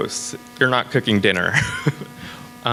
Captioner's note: laughs